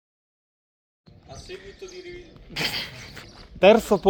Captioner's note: laughter